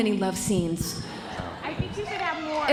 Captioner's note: audience laughing